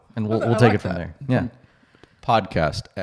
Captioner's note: speaks faintly